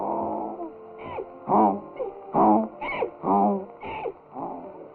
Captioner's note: donkey braying